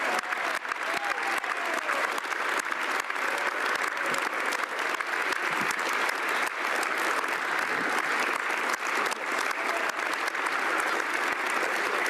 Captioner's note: applause